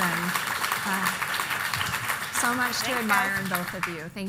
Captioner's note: applause